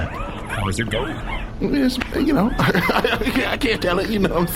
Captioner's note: chuckling